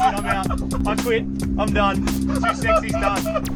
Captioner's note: laughing; laughing